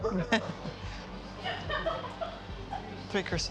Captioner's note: laughing